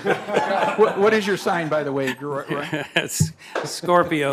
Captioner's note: laughter